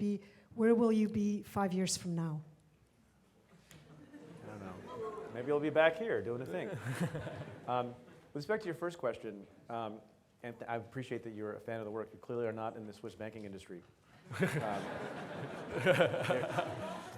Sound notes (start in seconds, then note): 3.9 audience laughs; 6.5 laughs; 14.2 audience laughs